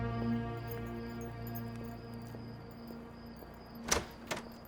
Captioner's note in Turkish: Cırcır böceği sesi; Ayak sesi; Kapı açılma sesi